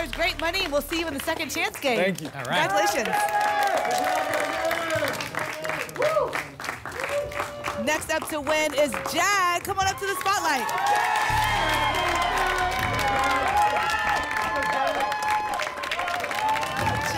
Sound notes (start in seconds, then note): 4.6 applause and cheering; 13.4 applause and cheering